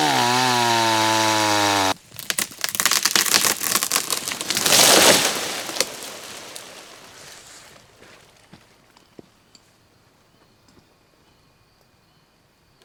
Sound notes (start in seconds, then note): 1.0 cracking